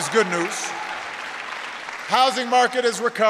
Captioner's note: applause